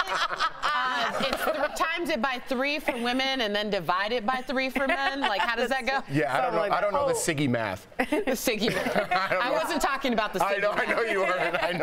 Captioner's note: laughter